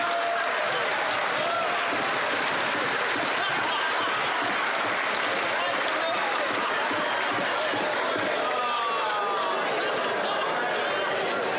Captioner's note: some Applause